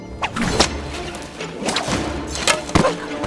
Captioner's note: rope whips